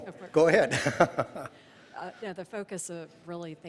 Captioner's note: laughing